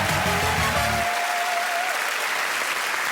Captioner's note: cheers and applause